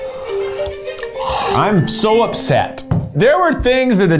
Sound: groans

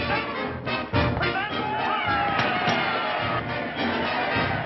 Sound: crowd cheering

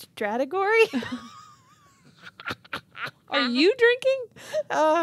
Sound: chuckling

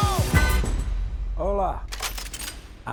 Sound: guns cocking

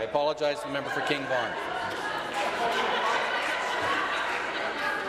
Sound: conversation din

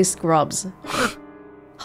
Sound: scoffs

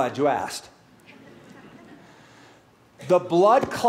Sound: laughter

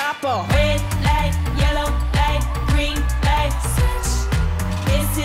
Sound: ooh

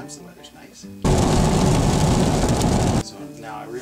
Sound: rain; wind howls

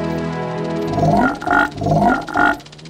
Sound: croaking

